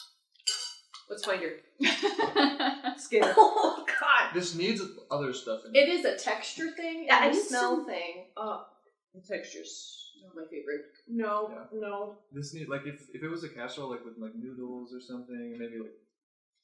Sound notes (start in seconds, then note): 1.8 laughter; 4.3 coughs